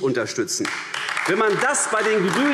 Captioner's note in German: Beifall AfD